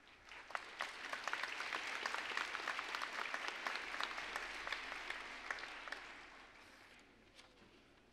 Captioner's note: applause